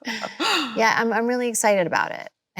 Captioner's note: both laughing